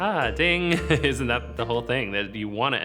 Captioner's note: laughs